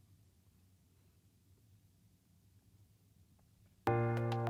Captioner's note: no audio